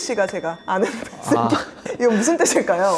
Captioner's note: laugh